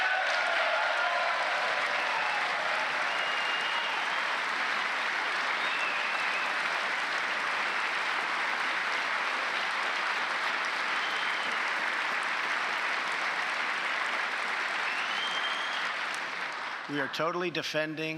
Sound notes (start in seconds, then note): 6.6 cheers and applause